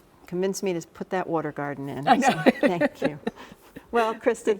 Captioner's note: laughs